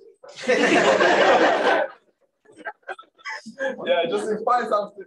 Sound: laughter

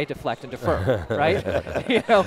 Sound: laughing

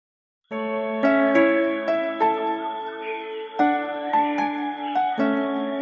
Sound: tranquil orchestral music; birds chirping

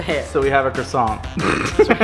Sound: laughing

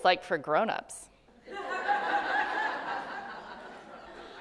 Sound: laughter

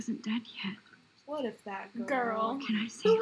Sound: mockingly

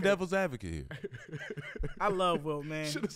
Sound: laughs

